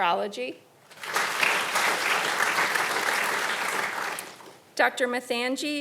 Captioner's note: audience applauding